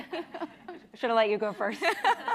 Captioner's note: chuckling